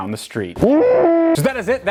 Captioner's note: kind of mooing sound for a scream